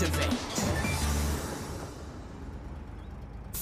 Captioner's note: taxi driving